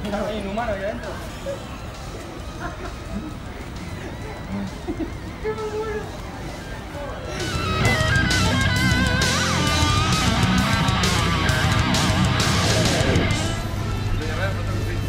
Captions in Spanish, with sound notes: ¿Hay un humano ahí adentro? (risas) ¿Es joda?